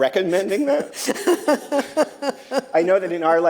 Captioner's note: laughter